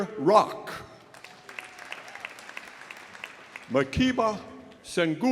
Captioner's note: audience applauding